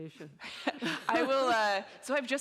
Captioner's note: all laughing